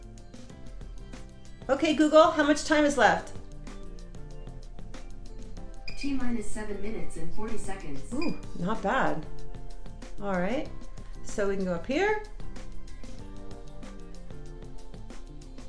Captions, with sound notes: Okay Google, how much time is left? - [Computer Voice] T minus seven minutes and 40 seconds. - Oh, not bad. All right, so we can go up here.